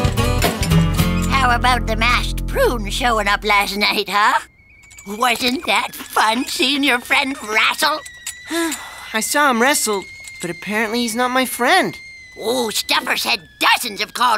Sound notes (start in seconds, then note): 8.4 sighing